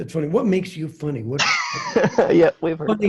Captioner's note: laughs